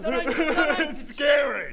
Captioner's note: sobs pathetically